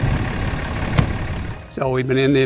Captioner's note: car door shuts